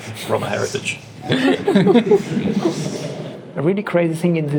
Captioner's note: laughter